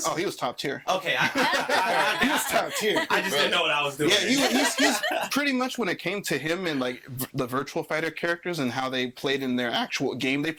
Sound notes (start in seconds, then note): 1.1 all laughing